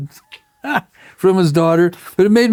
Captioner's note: laughs